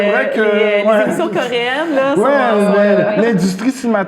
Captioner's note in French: rires